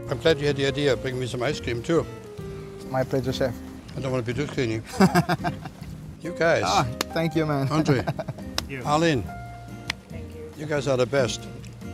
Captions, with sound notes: I'm glad you had the idea of bringing me some ice cream too. - My pleasure, chef. - I don't want to be too skinny. (laughs) You guys! - Ah, thank you man! - Andre! - Thank you. Arlene! - Thank you. You guys are the best!